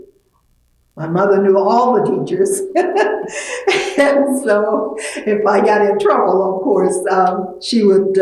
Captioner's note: laughs